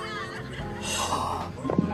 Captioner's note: sighs